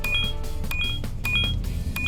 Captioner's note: beeping